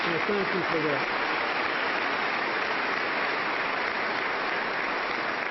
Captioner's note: applause